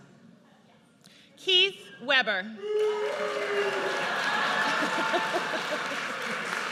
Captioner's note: audience cheers and boos